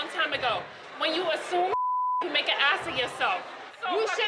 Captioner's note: beep